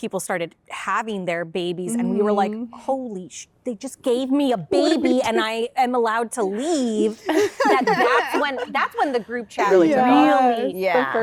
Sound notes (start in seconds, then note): 7.2 laughter